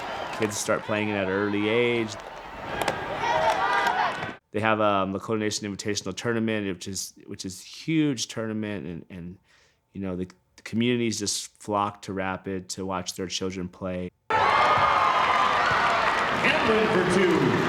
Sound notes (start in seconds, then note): 14.3 cheering and applause